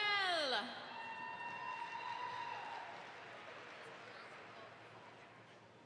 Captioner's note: audience applauds